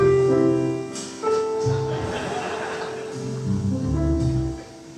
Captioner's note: audience laughing; jazz piano continues